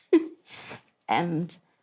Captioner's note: laughs